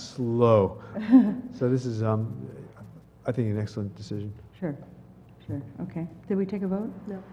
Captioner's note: laugh